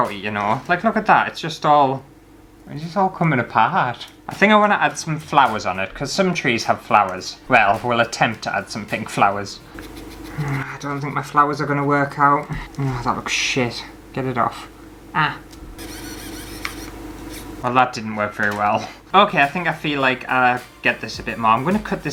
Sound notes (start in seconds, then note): 15.3 buzzing Sounds